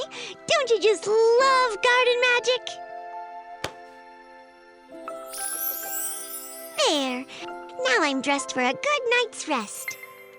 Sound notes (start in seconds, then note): 5.2 chiming